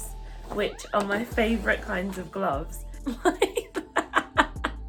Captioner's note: laughs